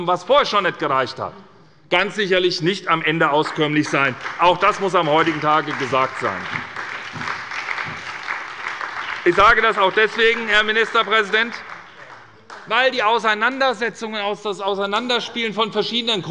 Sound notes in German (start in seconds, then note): 6.8 Beifall bei der SPD